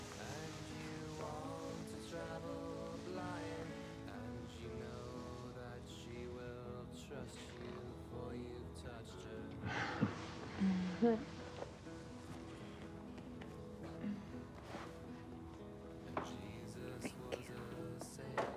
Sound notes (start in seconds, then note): 9.7 chuckles